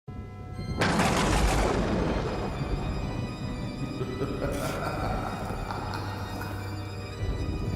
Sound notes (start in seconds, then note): 0.6 thunder crashes; 3.9 sinister laugh